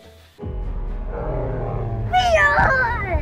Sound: animals roaring

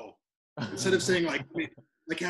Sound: laughing

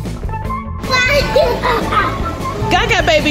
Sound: baby laughter; lively playful music

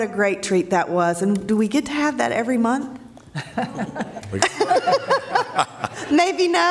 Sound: laughter

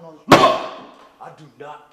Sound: hands thuds

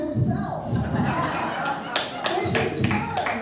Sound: laughter

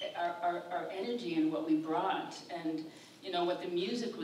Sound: none

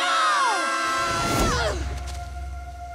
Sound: screaming

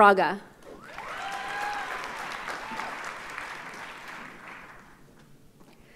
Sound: audience cheers and applauds

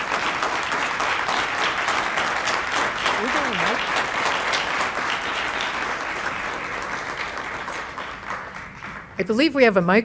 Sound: applause

